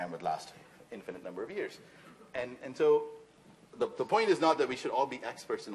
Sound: none

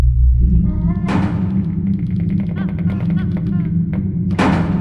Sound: walls banging

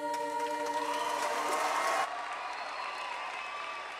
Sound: audience cheering

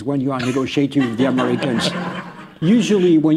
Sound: laughter

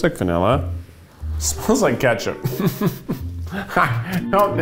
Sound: chuckles

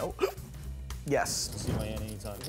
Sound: hiccups

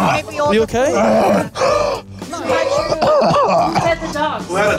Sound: coughs; coughs

